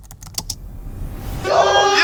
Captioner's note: typing